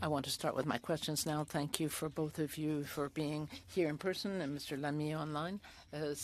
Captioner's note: speaking French